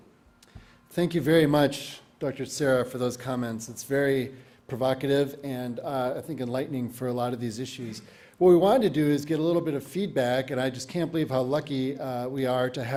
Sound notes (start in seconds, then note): none